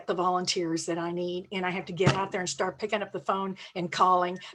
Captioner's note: fist thumps